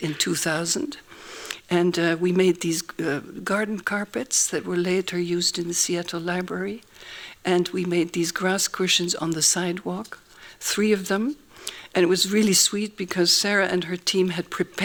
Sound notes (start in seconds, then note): none